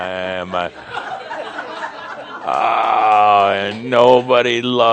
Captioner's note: more laughter